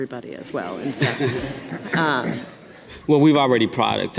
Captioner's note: audience laughing